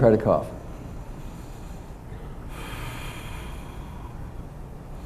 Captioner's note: breathes deeply